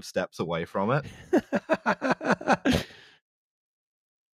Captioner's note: laughs